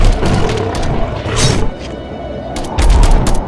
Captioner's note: beast growls; claw clinks; steps thudding; gun blasting